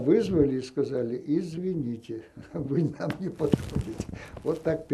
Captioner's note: laughing